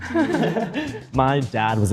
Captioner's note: group chuckles